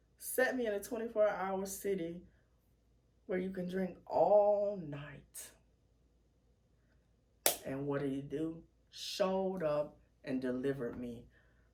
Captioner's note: clap